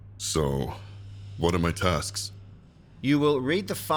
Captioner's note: none